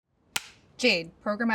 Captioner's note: clapper board claps